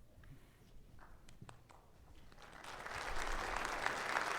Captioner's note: audience clapping